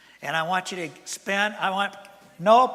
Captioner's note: none